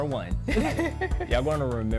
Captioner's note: laughs